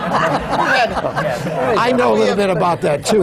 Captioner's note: laughter